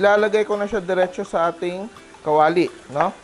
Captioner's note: sizzle